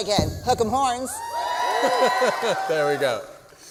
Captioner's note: louder cheering